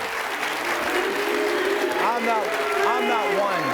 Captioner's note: audience clapping and booing